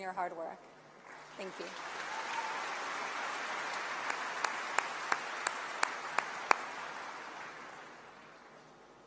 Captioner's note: applause